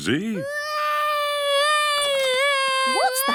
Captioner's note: baby wailing